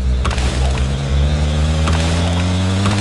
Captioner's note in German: Motorendröhnen wird lauter